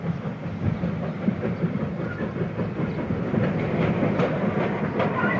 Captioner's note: train passes